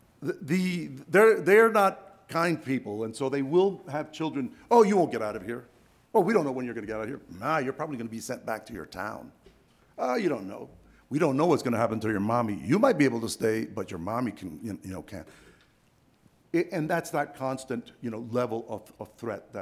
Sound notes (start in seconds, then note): none